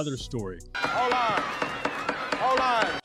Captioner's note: gavel banging